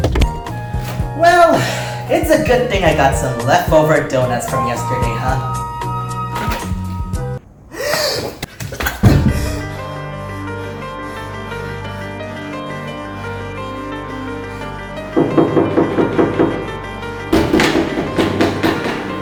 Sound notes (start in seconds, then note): 7.7 chubby boy gasp; 15.1 knock knock